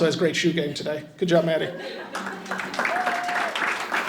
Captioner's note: audience chuckles; audience applauding and cheering